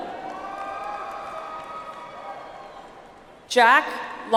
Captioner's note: audience applauds